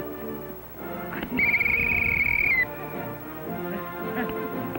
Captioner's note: whistle blows